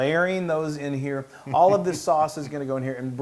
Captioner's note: laugh